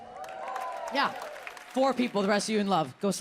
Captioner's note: audience cheers